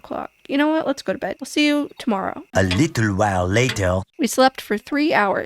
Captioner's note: french accented male narrator voice